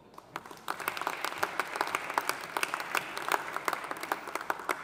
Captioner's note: audience applauding